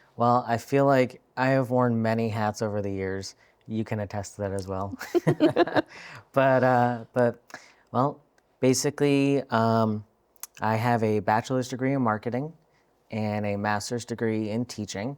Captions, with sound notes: Well, I feel like I have worn many hats over the years. You can attest to that as well. (laughing) But, well, basically, I have a bachelor's degree in marketing and a master's degree in teaching.